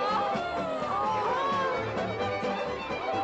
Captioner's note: girls exclaiming; girls clamoring